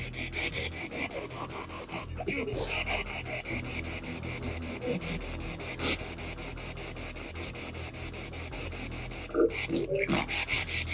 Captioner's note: radio noise from the spirit box and dark music